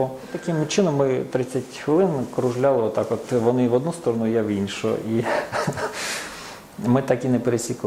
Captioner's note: laughs